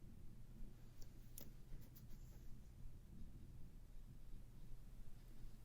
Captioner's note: tape placement snap and smoothing